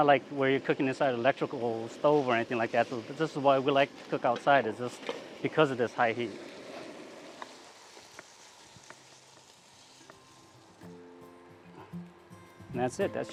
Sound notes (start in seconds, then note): 10.8 food sizzling; 12.3 gentle music